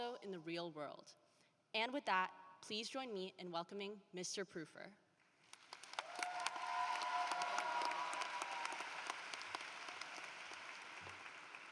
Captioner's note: applause